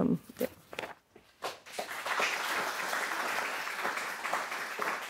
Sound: audience applauding

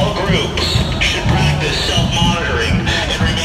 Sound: LRAD over megaphone

